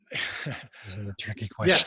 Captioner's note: laughing